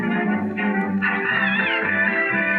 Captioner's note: meowing